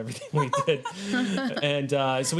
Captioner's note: laughing